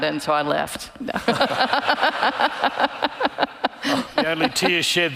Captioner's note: all laughing